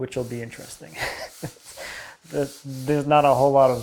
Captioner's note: laughing